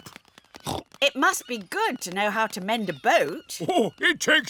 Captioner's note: snorts